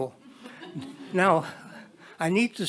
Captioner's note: attendees chuckle